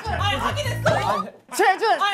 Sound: bump

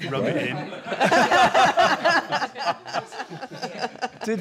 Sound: laughter

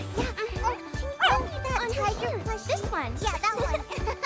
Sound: giggles and barks

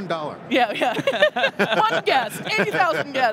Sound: laughing

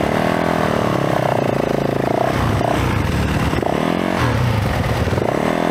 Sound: engine revving

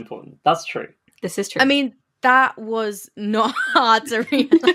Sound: laughing; laughs

